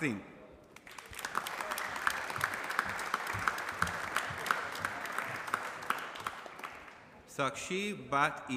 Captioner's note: applause